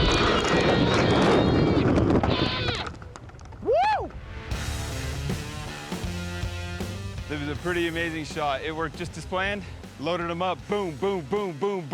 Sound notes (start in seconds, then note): 0.0 explosions continue, rocks falling; 0.0 rocks falling